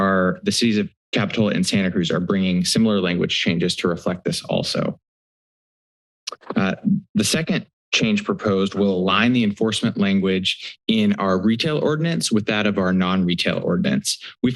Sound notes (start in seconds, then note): 6.3 clicks tongue